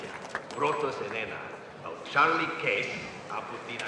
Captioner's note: speaking spanish